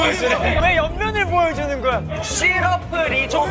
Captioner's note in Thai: เสียงร้องเรียนที่ดังมาจากทุกทิศ